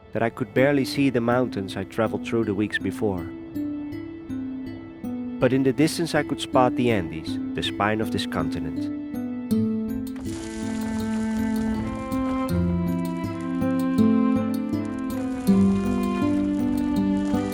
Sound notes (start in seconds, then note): 9.7 somber music; 11.8 line sizzling